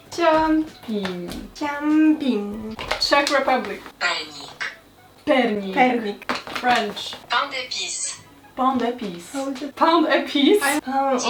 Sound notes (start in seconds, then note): 1.1 repeats but with more passion; 3.5 Google translate voice speaks; 7.2 Google translate voice speaks